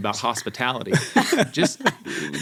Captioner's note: chuckling